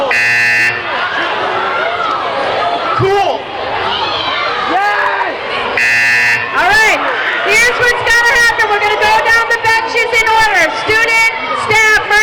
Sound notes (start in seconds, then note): 0.1 buzzing; 5.6 buzzing